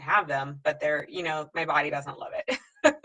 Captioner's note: laughs